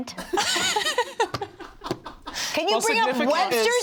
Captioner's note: laugh